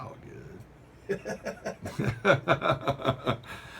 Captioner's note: laughter